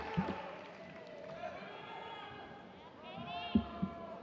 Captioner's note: audience cheers